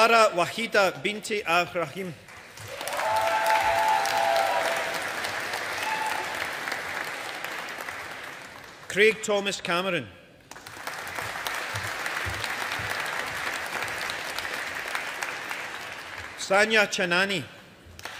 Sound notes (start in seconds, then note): 2.2 audience applauding; 10.5 audience applauding